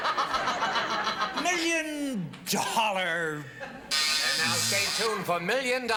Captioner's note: buzzer sounds